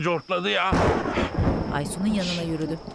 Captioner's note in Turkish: Gök gürültüsü sesi